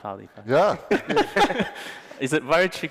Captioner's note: laughter